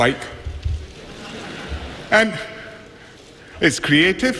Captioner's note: laughter